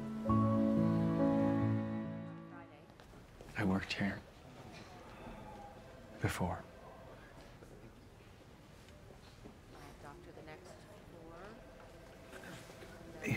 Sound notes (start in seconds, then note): 2.6 chatter; 6.9 phone rings